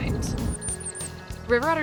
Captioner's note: bird chirping